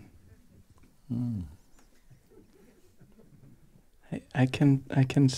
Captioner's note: soft laughter